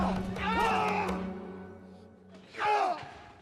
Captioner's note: screams